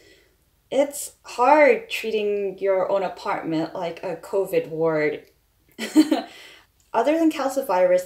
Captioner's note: laughs